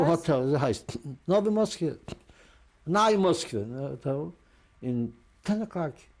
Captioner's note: non-english